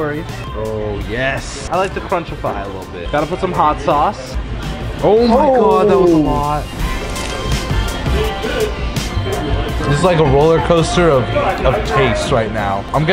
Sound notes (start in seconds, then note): 6.7 taco shell crunches